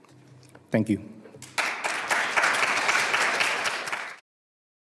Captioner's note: applause